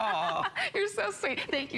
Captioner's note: laughter